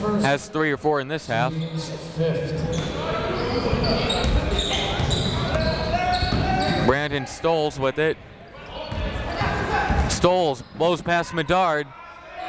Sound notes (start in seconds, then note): 4.1 chatter